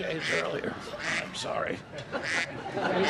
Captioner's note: duck quacking